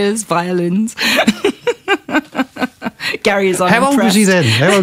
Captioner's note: laughter